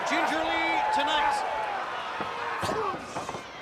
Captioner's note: crowd chatter